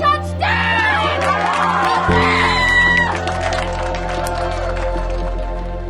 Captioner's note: cheering